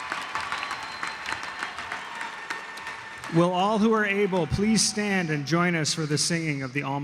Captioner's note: cheers and applause